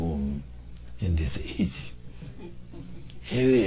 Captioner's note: laughs